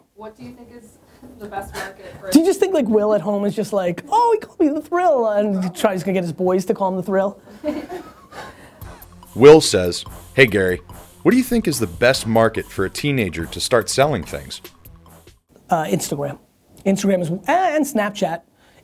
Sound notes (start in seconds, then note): 7.3 voiceover